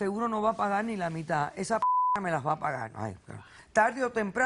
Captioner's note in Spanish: Bip